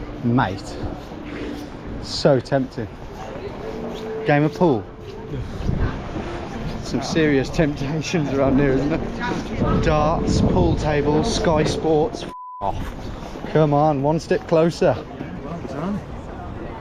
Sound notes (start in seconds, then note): 12.2 beep; 12.6 crowd chattering